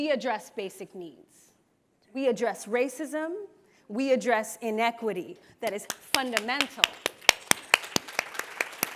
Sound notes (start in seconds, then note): 5.7 applause